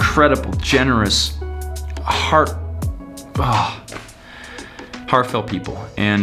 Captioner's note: sighs